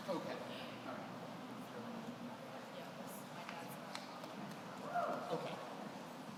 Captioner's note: speaking off mic